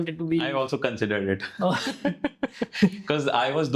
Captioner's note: laugh